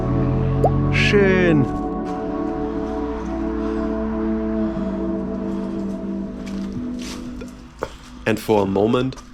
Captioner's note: German